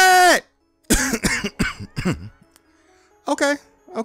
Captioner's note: coughing